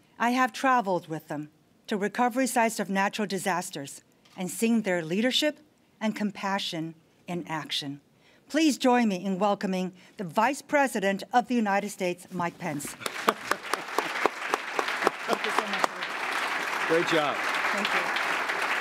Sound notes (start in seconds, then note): 11.3 applause